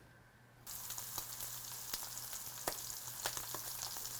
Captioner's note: sizzling